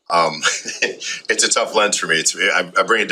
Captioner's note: both chuckle